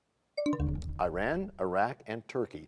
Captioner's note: bell chimes, time expires